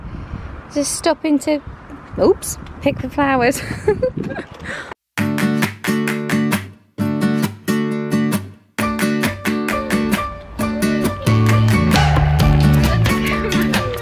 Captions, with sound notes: We're just stopping to, oops, pick the flowers. (laughs) (upbeat music)